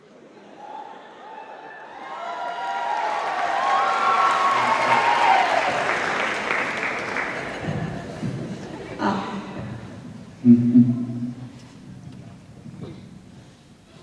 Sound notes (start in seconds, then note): 0.1 cheers